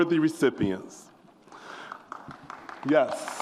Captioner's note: audience applauds